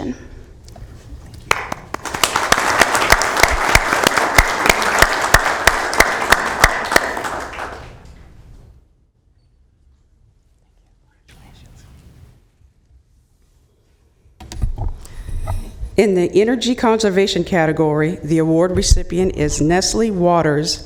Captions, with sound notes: COMMUNITY FOR THIS RESOLUTION. NUGGET IS EXCITED AND PROUD TO BE ACCEPTING THIS RESOLUTION. [APPLAUDING]